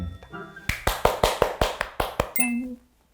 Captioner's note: clapping with no questions asked